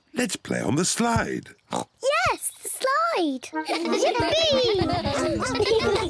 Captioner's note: oinks